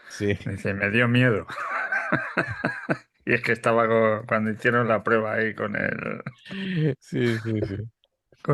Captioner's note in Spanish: risas